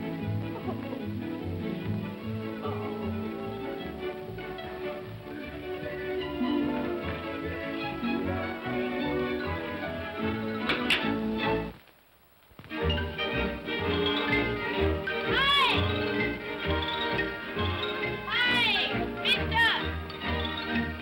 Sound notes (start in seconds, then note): 0.0 whimsical music; 10.6 comb clatters down; 12.6 whimsical music; 16.2 whimsical music